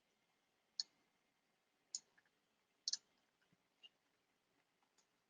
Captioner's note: mouse clicking